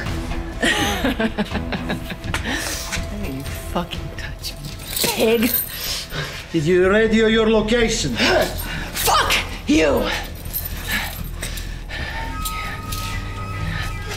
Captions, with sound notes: [laughs] - Don't even fucking touch me, you pig! - Did you radio your location? - Fuck you!